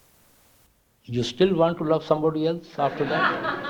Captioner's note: laughter